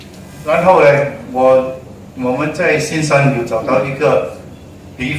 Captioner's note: none